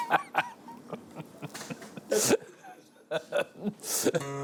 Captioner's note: laughing